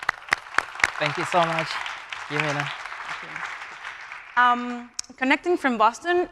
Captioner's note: audience applauding